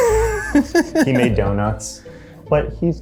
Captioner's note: laughs